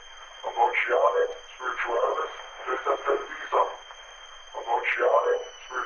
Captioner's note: Chemock speaks Latin